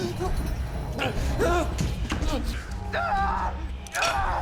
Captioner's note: screaming